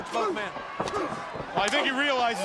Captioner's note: crowd clamoring; wrestlers grunting